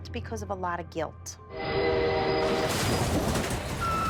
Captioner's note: train horn